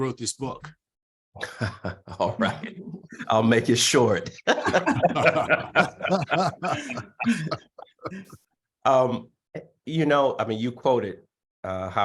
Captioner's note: laughter